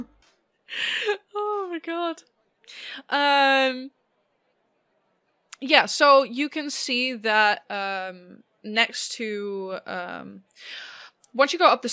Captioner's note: laughing